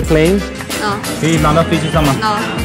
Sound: speaking Chinese

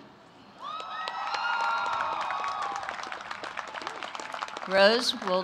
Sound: applause

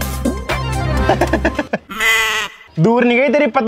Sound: laughing

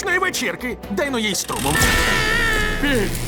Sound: Bean moans

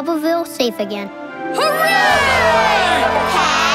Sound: cheering

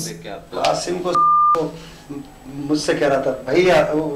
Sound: non-english speech

